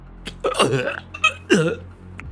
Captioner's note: gagging sounds